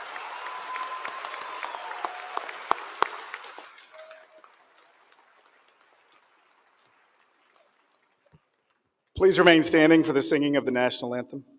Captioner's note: applause